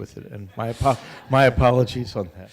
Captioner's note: audience laughter